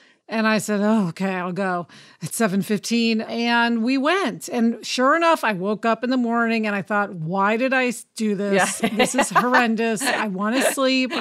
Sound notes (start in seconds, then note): 8.6 laughs